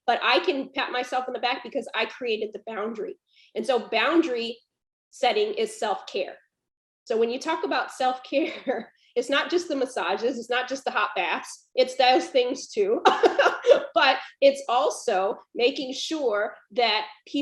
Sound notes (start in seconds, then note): 13.0 laughs